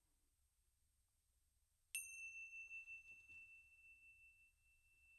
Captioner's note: bells ringing